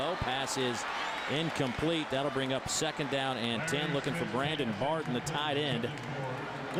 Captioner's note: crowd noise